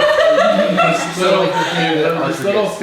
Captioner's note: group laughs